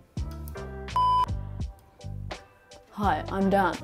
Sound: screen beeping

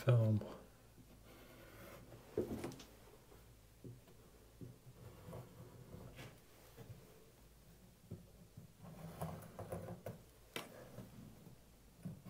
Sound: pause

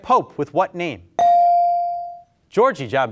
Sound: beep

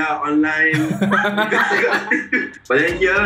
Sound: laughs

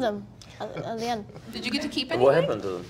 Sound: men laughing

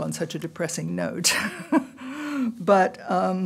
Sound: laughter

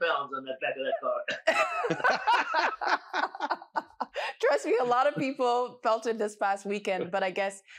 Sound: laughter

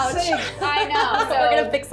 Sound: laughs

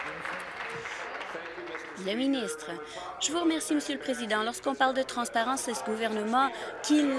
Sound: applause

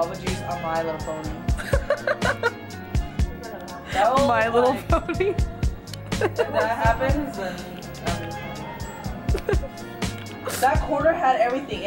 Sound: laughing

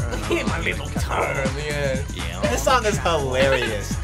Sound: laughs

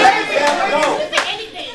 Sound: yelling

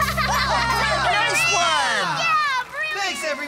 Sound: laughter & Cheering

